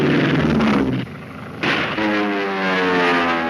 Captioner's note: airplane engine roaring; gunshot; airplane engine roaring